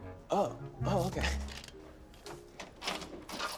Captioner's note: keys rattling